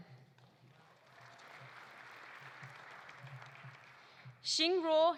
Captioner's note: audience applauding